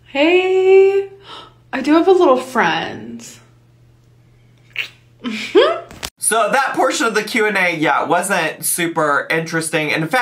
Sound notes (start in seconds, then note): 5.2 giggling